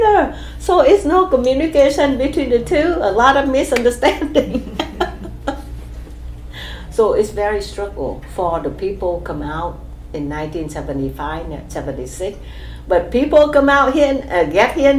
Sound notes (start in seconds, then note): 4.1 laughs